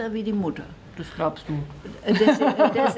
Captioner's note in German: lacht